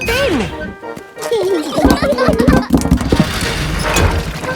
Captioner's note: children giggling